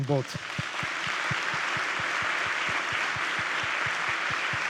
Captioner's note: attendees clapping